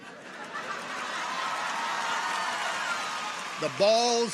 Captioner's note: people laugh; people cheer